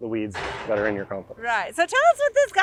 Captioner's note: excavator crashing